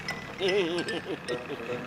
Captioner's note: laughing nervously